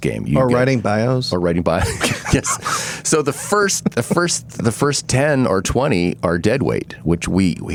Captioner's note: laughing